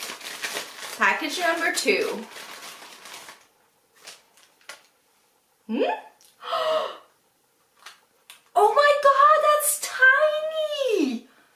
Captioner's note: surprised sound; gasps